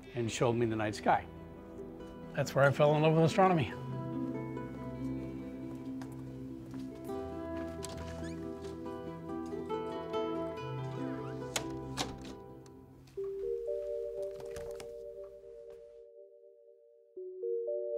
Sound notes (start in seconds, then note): 4.9 soothing music; 8.9 door closes; 13.7 intriguing music